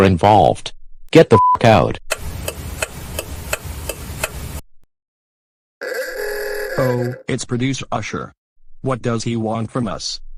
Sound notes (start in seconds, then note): 5.8 car horn ringtone